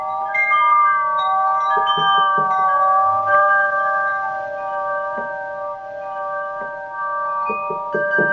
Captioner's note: knocking on door